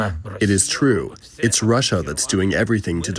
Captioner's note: through translator